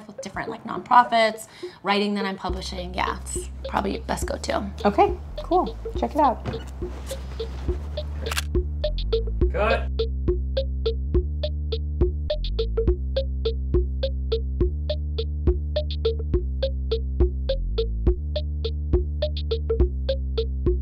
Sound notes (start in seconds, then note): 8.2 camera shutter; 10.5 bouncy music